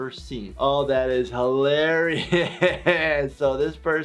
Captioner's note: laughing